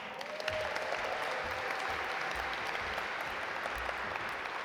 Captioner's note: audience applaud